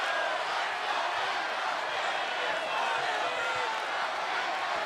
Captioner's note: audience cheering